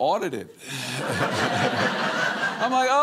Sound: audience laughing

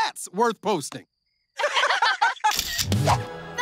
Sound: laughing

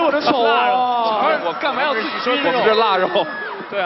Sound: scream

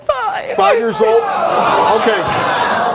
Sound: audience responds

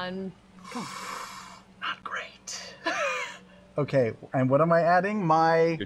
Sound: gasps

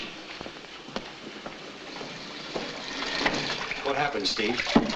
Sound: water running

